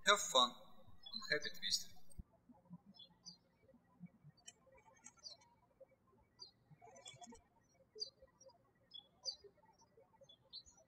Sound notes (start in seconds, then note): 3.5 birds chirping